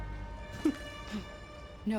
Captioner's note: laugh